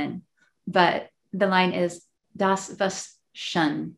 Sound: speaking in foreign language

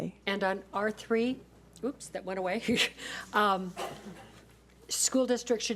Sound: laughs

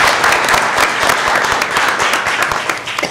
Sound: applause

